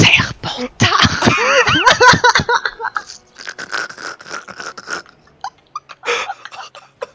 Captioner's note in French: éclatent de rire tous les deux